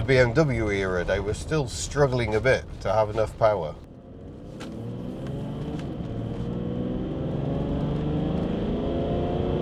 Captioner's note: meaty diesel engine noises